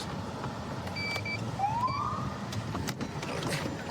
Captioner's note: siren chirps